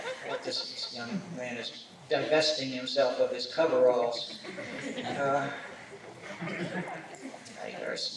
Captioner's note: laughter; laughter